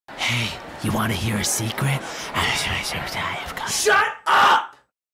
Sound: whispering gibberish

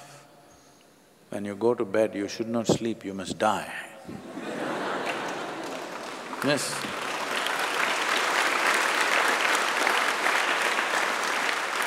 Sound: laughter; applause

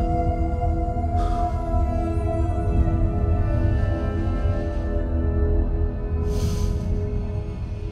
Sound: breathing heavily

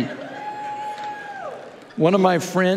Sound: congregants cheering

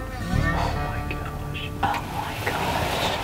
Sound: whispering

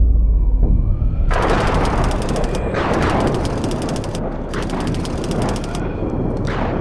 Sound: thunder rumbling; typewriter clicking

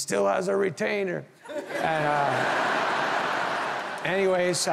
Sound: audience laughing

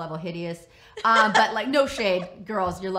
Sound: laughs

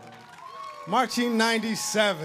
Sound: audience applauding

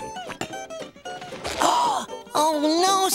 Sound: gasping

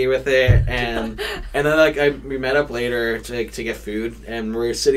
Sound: laughs

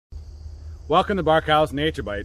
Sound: crickets hum

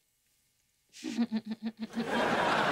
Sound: laughing

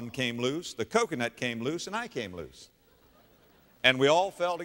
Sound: audience laughter

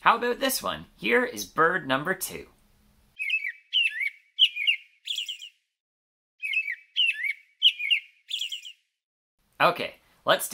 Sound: american Robin sound

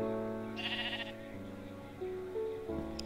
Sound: sheep baahs

